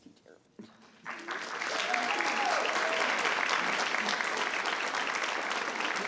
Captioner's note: audience cheers and applauds